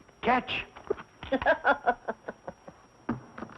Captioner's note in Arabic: يضحك